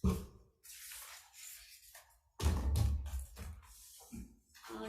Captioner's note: papers shuffle